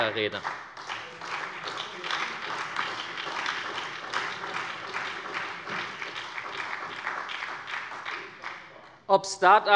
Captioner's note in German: Beifall bei der SPD